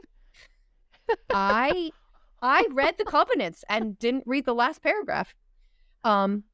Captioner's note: laughter